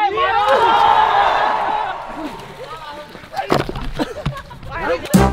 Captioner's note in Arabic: صراخ